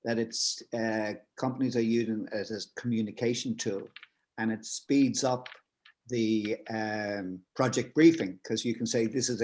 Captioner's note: none